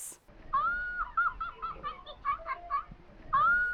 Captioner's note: Elmo laughing hysterically